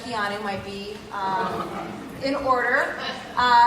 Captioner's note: laugh